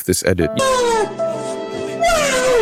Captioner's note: screaming